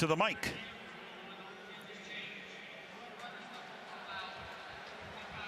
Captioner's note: referee call